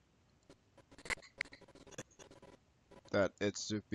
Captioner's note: audio skipping